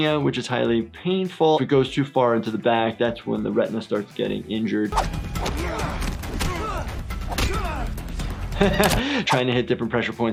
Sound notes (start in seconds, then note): 6.2 men grunting